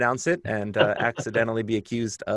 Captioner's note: laughter